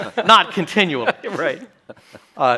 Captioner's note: chuckles